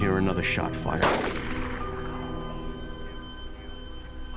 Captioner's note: gun shot